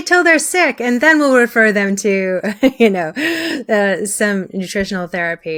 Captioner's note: chuckles